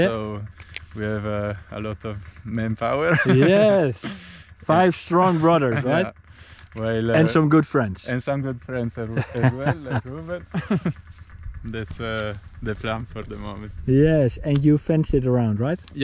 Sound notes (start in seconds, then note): 3.0 laughs; 9.0 laughs; 10.6 laughing